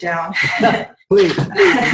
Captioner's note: laughs